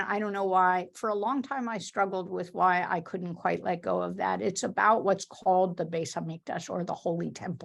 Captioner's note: Hebrew